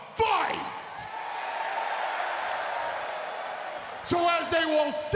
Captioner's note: crowd cheering